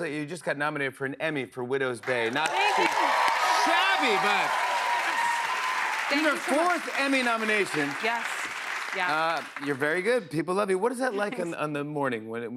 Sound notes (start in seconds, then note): 4.9 cheers and applause